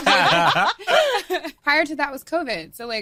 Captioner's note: group laughing